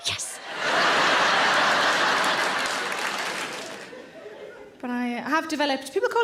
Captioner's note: audience laughing; audience applauding